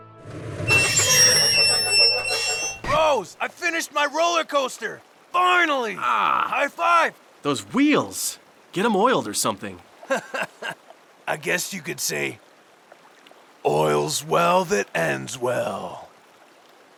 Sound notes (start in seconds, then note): 0.6 minecart grinds harshly against rails; 10.0 laughs